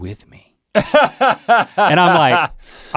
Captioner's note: Rhett laughs